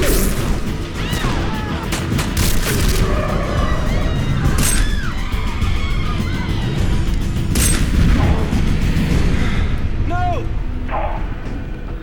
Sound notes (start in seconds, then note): 3.4 tires screeching